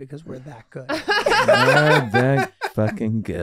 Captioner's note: group laughing